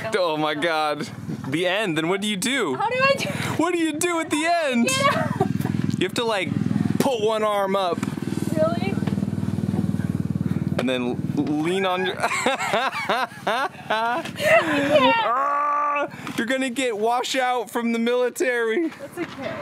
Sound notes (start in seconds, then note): 11.8 cackles